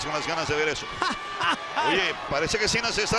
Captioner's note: laugh